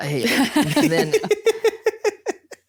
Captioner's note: laughing